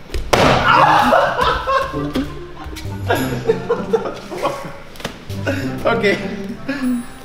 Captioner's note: laughs